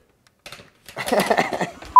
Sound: laughing

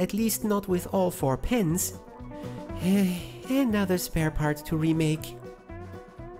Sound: sigh

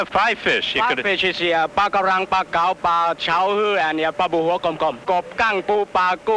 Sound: speak foreign language

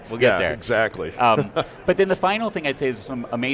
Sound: chuckles

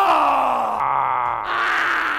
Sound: roaring

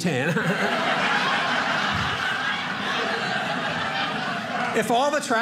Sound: audience laughing

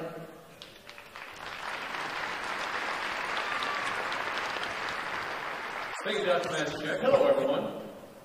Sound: applause

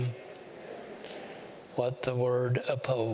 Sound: audience repeats

